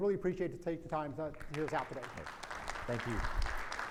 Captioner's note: audience applauds